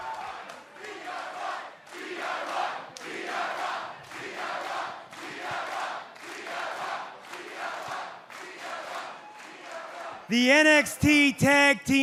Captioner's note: fans chanting